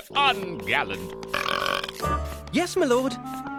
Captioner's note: belching